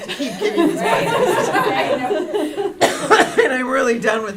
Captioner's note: laughter